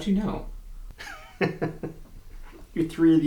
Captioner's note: Humfrey laughs